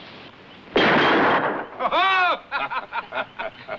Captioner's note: gun firing; all laughing